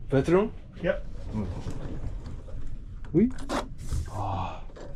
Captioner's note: bedroom door